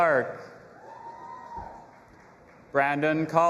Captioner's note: audience applauding and cheering